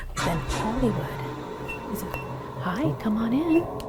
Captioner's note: device beeping